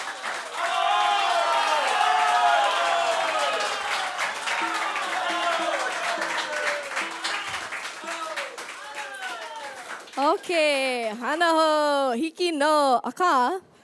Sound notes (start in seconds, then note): 0.7 audience cheering - encore